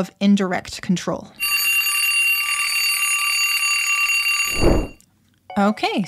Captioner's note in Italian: suona una sveglia - fine tempo